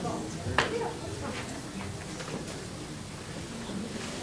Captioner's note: crowd talking indistinctly